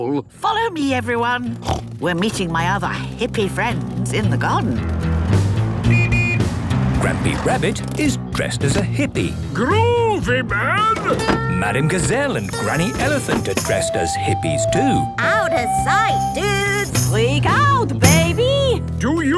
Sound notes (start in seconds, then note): 1.5 snorts; 5.7 honking